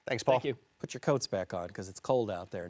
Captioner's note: French